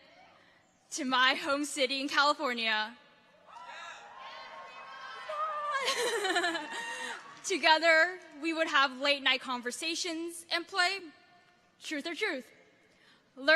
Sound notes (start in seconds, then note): 3.4 people cheer; 5.6 chuckles